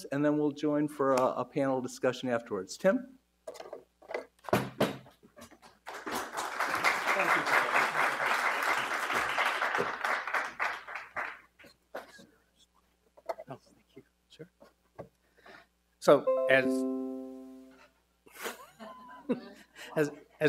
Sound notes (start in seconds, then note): 5.8 audience applauds; 16.2 computer noise bleeps; 18.4 and some audience members laugh